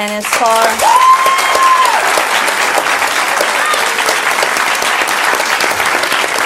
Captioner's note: audience clapping and cheering